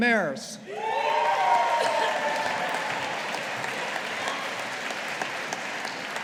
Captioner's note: audience applauding